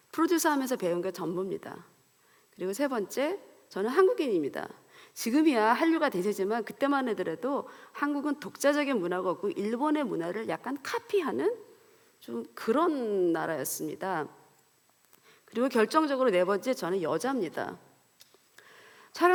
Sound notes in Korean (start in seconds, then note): none